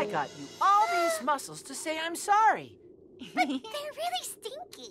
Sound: laughs

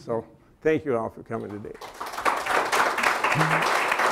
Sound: applause

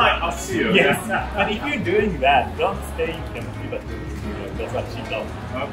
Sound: laughs

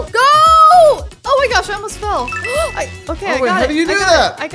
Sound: electronic beeps

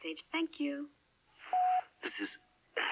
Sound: beep

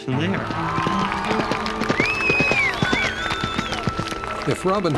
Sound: crowd cheering

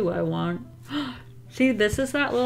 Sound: gasps

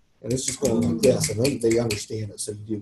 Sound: snapping rapidly

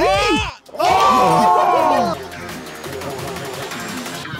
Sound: Sidemen exclaiming

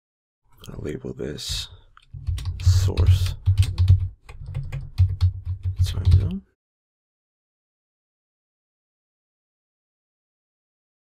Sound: typing

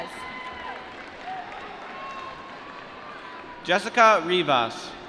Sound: applause

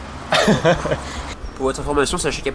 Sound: laughes

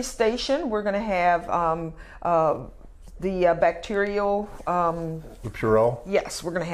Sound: rubs hands

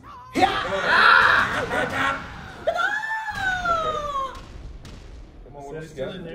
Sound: laugh

